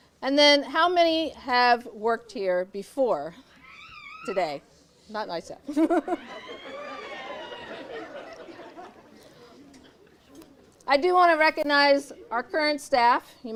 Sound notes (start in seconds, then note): 5.7 laughing; 5.7 audience chatters and laughs